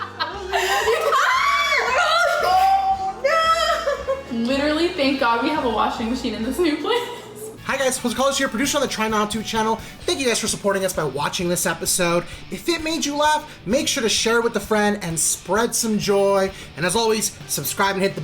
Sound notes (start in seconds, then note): 1.0 screams